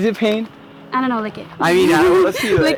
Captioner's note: laughing